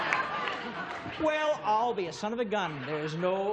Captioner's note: laughs; audience laughs